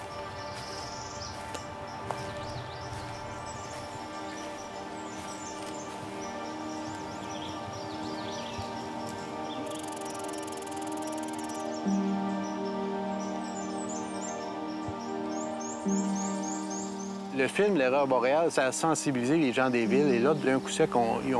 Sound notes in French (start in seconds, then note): 0.0 bruit de pas; 7.3 bruits de la forêt